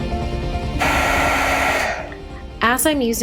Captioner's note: whirring